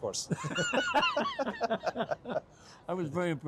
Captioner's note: both laugh